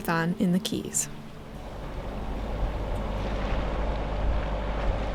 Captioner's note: engine noise